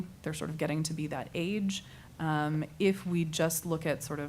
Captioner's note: none